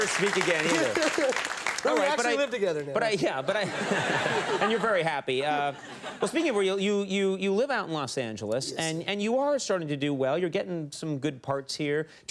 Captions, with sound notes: You'll never speak again either. Oh, right- But we actually live together now. But yeah. (audience laughing) And you're very happy. Speaking of real, you live out in Los Angeles and you are starting to do well. You're getting some good parts here.